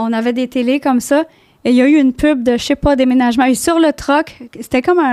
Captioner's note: in french